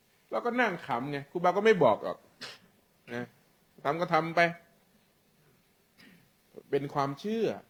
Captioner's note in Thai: เสียงสูดหายใจ